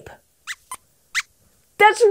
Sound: squeaks squeaks

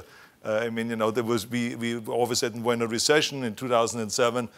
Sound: none

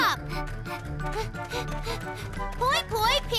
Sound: panting

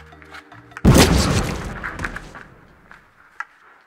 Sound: explosion

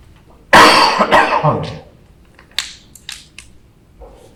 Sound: loud coughing

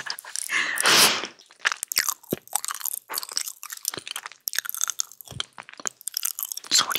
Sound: laughing; nom nom nom

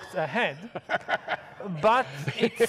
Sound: audience laughs

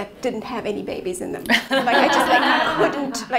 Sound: laughing

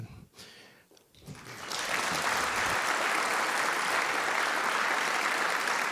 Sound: audience applauding

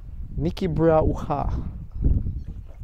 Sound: speaking foreign language

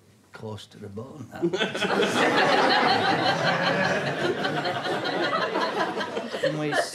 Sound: audience laughter

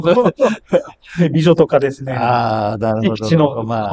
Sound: laughs

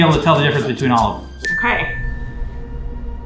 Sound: bell dings

